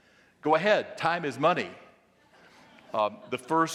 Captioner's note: audience laughing